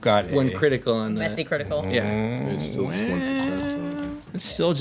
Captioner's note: groans